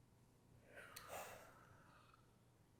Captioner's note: sigh